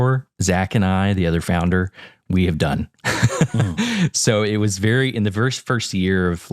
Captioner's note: laugh